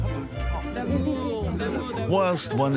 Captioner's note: speaking in foreign language